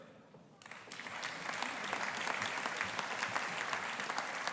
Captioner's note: audience applauding